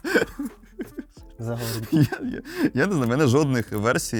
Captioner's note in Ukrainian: сміх